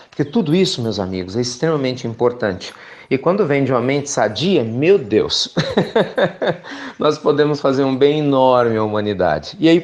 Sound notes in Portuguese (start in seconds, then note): 5.5 Risos